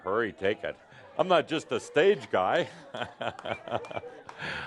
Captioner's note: chuckling